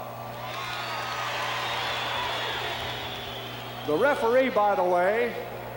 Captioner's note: applause